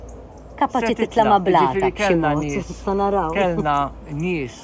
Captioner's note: chuckles